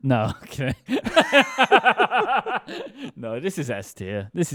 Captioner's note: both laughing